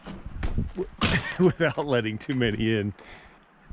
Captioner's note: laughs